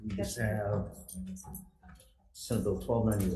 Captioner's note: member speaking faintly